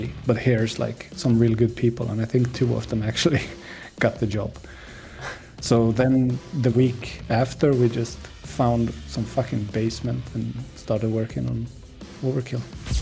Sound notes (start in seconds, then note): 4.7 impressed gasp; 5.1 laughs